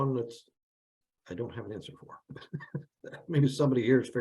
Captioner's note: chuckles